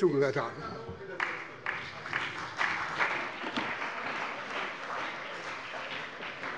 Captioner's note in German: Beifall bei der CDU und dem BÜNDNIS 90/DIE GRÜNEN